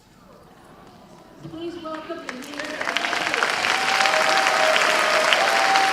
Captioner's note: drowned out by applause